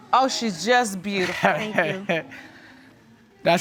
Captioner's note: laughs